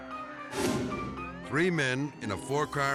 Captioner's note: sirens blaring; dramatic air whoosh